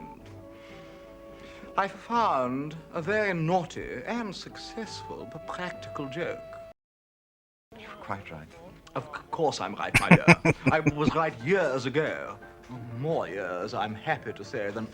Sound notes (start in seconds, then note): 9.9 laughing